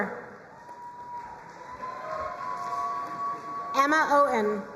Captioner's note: crowd cheering and applauding